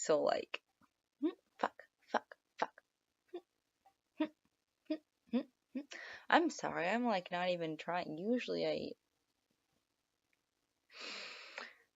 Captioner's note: sigh